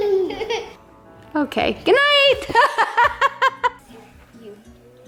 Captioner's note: kids laughing; laughs